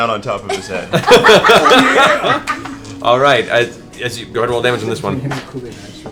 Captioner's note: laughs